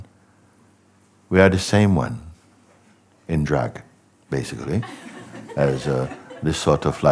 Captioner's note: laughter